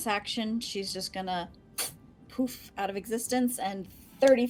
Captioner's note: blows air